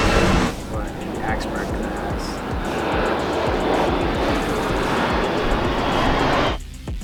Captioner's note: airplane flying over